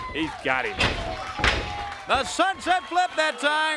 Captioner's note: crowd cheering